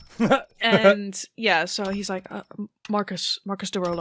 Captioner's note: laughs